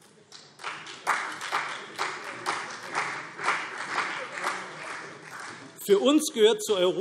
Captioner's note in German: Beifall CDU